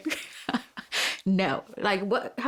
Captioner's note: chuckles